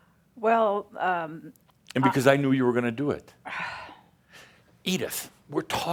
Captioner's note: she sighs